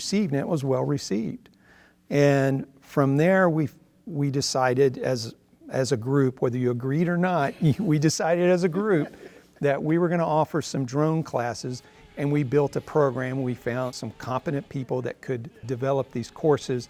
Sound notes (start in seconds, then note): 11.4 drone sound